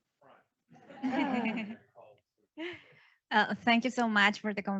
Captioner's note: audience laughs